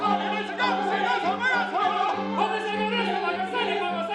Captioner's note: shouting in Sanskrit